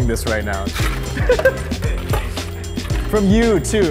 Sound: laughing

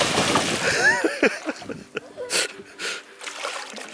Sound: laughs

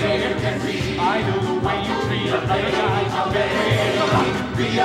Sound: men, chanting

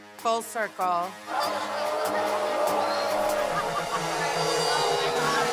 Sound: crowd booing

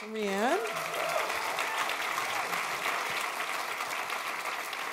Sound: attendees applauding

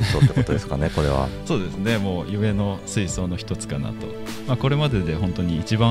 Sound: laugh

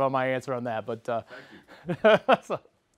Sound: laugh

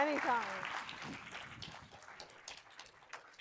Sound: audience applauds

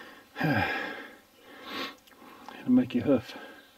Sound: sighing

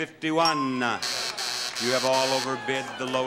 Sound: buzzer sounds

